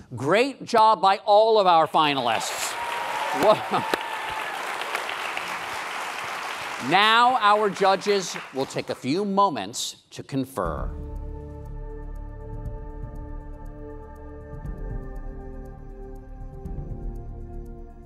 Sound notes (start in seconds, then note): 2.3 applause; 11.5 intense music